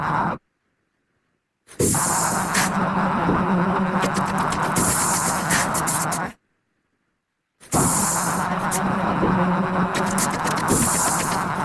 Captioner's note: digital vocalizing